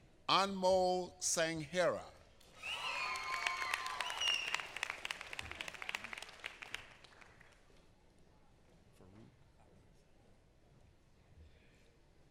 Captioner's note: applause